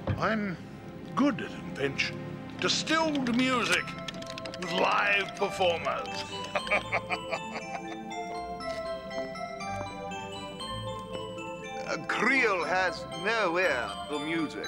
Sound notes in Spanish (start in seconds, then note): 6.0 Zadrim riendo; 6.2 música de caja de música